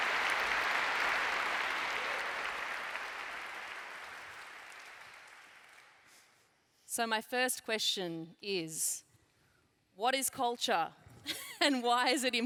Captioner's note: laughs